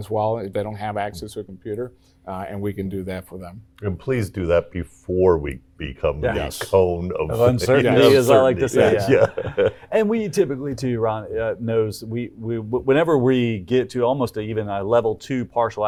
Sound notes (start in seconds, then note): 10.7 laughs